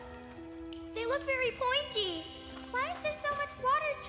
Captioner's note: nervously